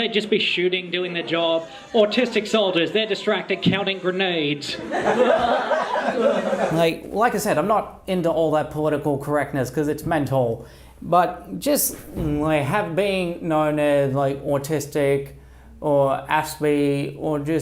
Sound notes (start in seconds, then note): 4.7 laughter